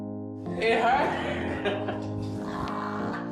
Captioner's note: laughing